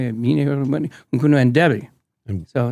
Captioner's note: speaking in tongues